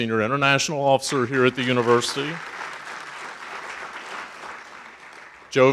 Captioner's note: audience applauding